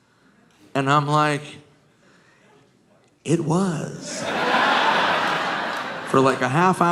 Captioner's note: audience laughing